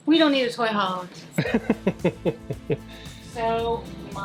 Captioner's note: laughs